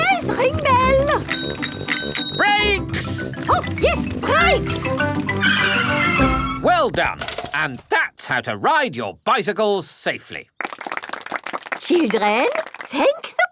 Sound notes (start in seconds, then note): 0.0 rings bell; 5.7 tires screech